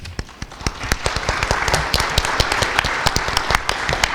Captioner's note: audience applauding